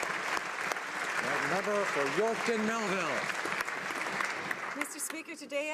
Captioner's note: applause